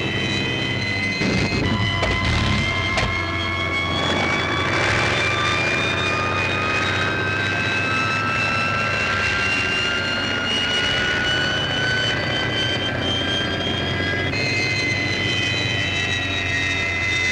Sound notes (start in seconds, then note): 1.1 plane clatters